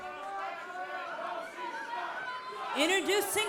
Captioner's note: fans chanting